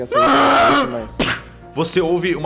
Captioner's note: bellows of pain; impact